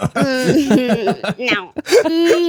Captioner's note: laughter